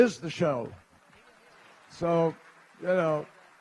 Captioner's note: applause